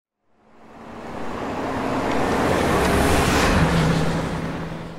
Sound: vehicle whooshing past

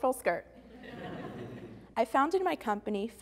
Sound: audience Laughing

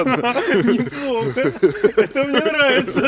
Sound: laughing

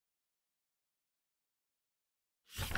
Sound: page flip sound

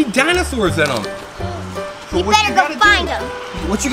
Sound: boy gasps

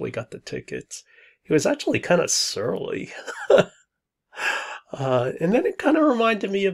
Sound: laughs

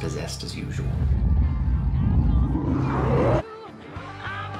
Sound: growls demonically

